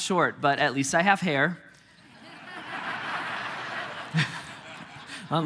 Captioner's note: congregation laughing